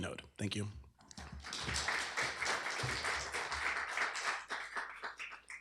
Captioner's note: applause